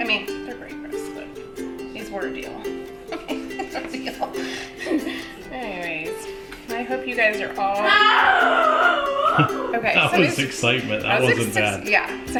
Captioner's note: screaming for kids in background